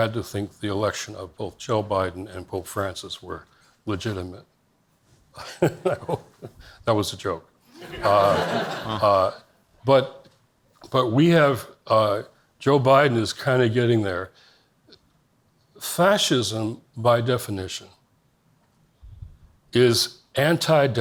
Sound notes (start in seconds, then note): 5.4 laughs; 7.7 audience laughs